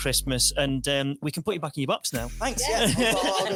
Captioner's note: laughs